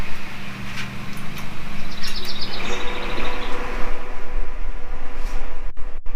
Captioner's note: lid clangs; grill ignition clicks